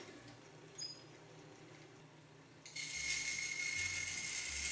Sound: saw buzzing

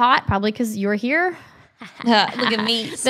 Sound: laughs

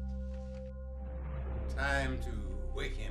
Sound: air whooshing

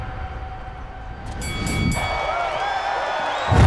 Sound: dinging; cheering

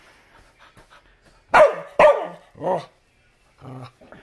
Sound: barking & growls

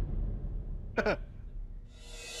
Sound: chuckles

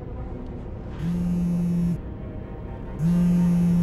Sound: phone vibrates louder

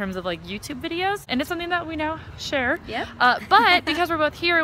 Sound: laughs

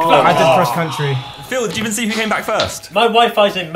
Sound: students murmurs

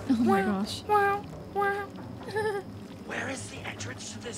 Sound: humming

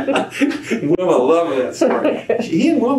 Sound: laughter

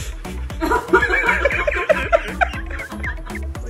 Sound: laughing

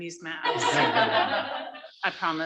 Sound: laughter

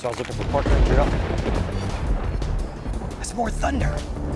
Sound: thundering

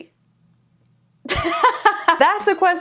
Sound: laughing

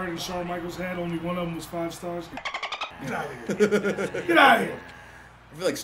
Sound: laugh

